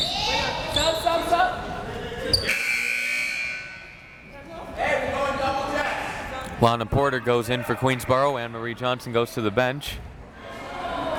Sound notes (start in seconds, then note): 2.4 buzzer ringing; 5.2 crowd members shouting; 10.5 crowd members shouting